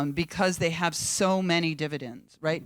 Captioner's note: none